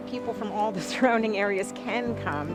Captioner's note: laughing